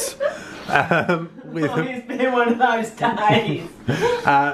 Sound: laughing

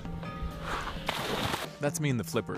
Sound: splash

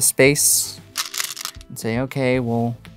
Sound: stones rattling

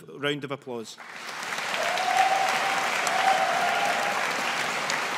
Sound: graduates applauding

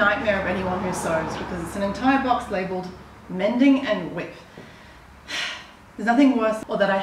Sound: sigh

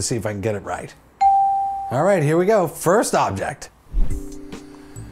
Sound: bell rings

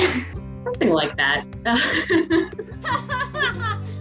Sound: laughing; laughs

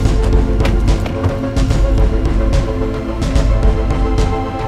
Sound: car doors thud

